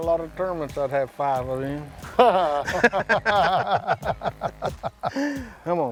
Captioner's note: laughter